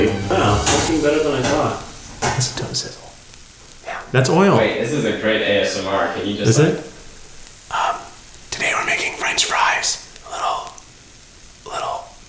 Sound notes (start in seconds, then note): 2.2 whispering; 3.0 fries sizzling close to the microphone; 7.7 whispering